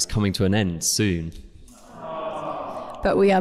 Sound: big ‘awwwww’ from offscreen

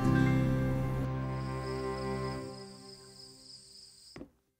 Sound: crickets chirping

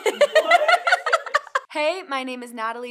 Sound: and Crew laughing

